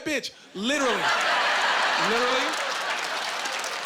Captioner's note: laughing